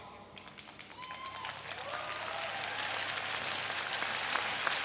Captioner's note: audience cheering